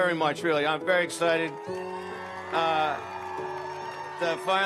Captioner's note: audience cheers